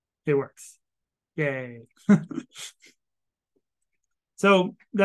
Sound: chuckles

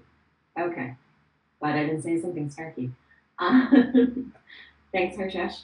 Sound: laughs

